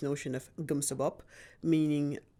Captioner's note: speaking in foreign language